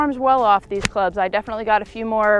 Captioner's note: golf ball smacks